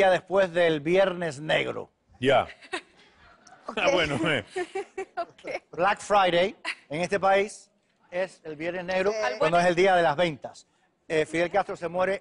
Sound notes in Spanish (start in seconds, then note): 4.0 Risas; 5.6 Riendo